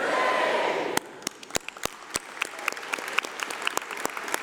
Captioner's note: applause